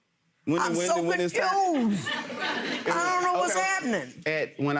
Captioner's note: audience laughing